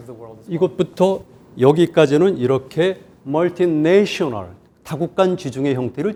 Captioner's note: speaking in Korean